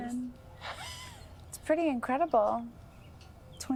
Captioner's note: wheezing Chuckle; 喘息轻笑